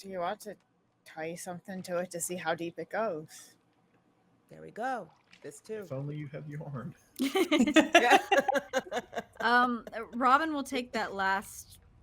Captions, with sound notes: - Do you want to tie something to it to see how deep it goes? - There we go. This too. - If only you had yarn. (both laughing) - Robin will take that last